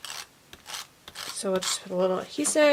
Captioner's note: tool scratching